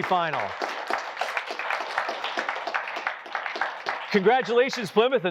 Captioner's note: applause